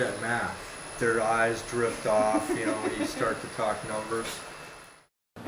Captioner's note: background laughter